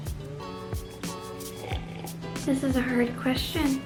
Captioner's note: slurp